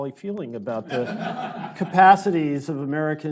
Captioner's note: audience laughing